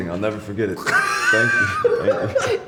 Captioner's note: laughing